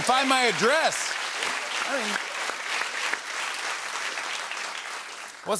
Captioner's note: applause